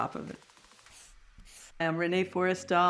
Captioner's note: marker across paper